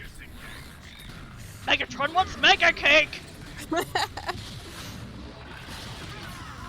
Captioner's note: laughs